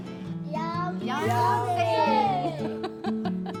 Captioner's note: cheers